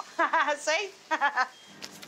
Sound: laughs

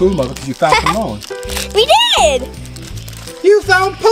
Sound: laughs

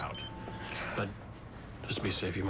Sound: cell phone beeps and buzzes

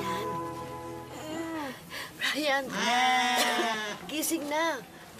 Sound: Ester coughs; Bryan groans

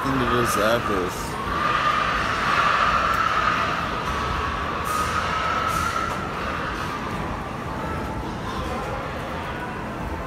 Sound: screaming and crying from the pigs

